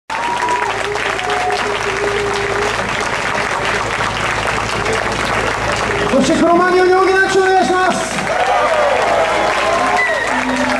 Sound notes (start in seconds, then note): 3.1 audience applauding after the performance of the last musician; 10.6 audience applauds